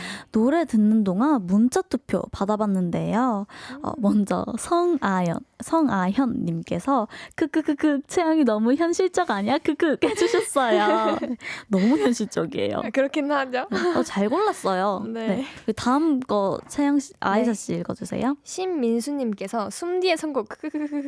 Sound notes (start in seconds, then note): 10.1 laughing sounds; 20.7 laughing sounds